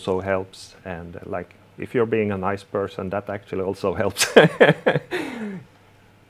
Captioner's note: laughing